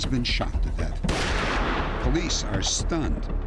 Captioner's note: gunshot